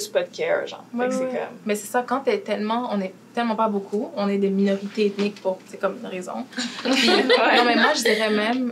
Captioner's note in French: rires